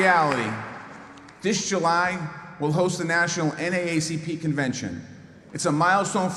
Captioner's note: applause